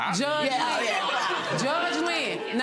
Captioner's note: audience gasping